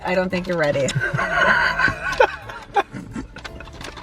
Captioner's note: laughing